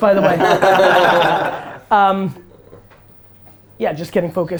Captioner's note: group laughter